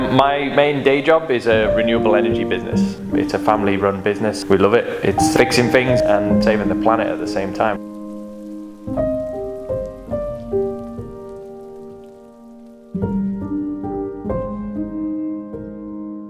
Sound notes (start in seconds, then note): 8.9 light rain; 11.7 gentle piano music